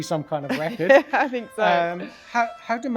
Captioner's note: laughs